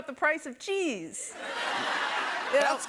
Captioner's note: laughter